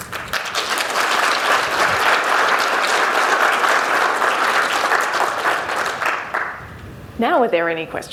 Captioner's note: applause